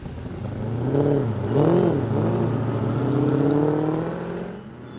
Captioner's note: engine roaring